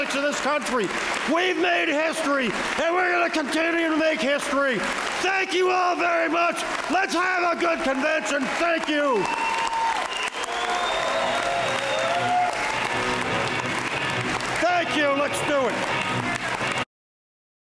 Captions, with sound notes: in this country we've made history and we're going to continue to make history thank you all very much let's have a good convention thank you! [Applause] Thank you let's do it